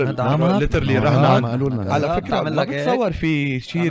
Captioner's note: laughs